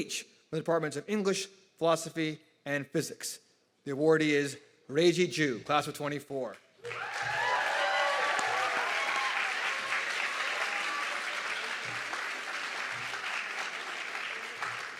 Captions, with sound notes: from the departments of English philosophy and physics. The awardee is Reiji Ju, class of '24. (audience clapping and cheering)